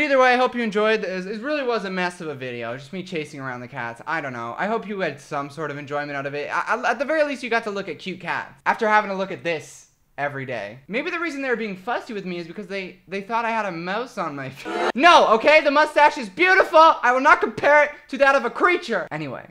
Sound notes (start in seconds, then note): 14.6 audience booing